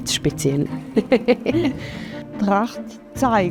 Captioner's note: laughs bashfully